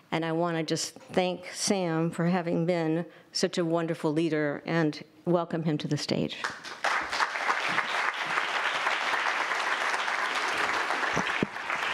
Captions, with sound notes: And I wanna just thank Sam for having been such a wonderful leader, and welcome him to the stage. (audience applauding)